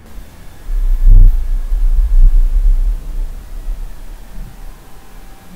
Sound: radio noise humming

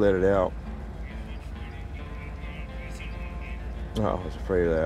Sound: voice on phone

